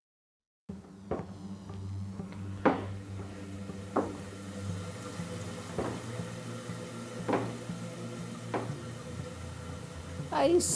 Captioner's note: sound of footsteps, running toilet in background